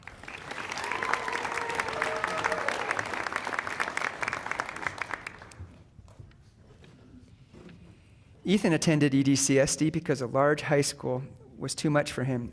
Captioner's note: applause